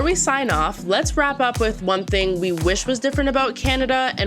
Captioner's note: none